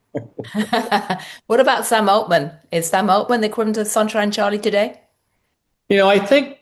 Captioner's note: laughs